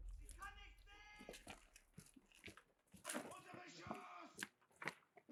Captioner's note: shouting in German